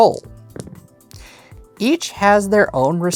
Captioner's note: dice rolling